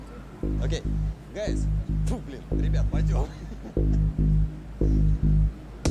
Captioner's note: tense music; speaks in foreign language